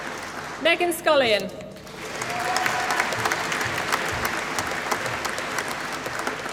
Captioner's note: applause